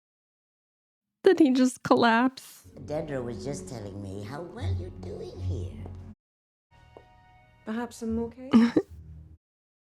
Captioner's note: laughter